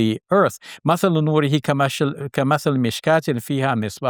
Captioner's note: speaks in Arabic